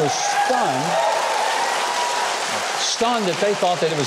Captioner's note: applause